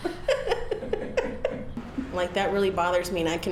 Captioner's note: laughter